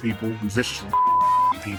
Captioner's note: beep